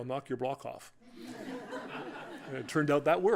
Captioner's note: laughter